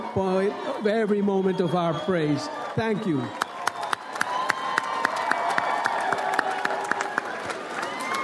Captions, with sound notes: every moment of our praise. Thank you. (audience cheers and applauds)